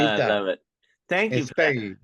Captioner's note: group chatter